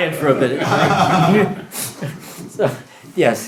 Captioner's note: laughter